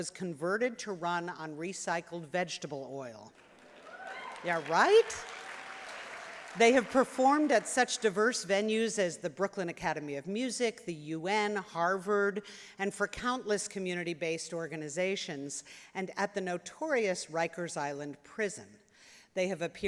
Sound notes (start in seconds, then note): 3.3 applause